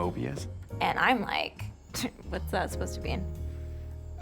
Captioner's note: scoffs